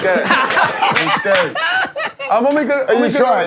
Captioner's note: laughing